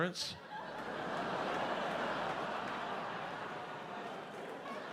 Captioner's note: audience laughs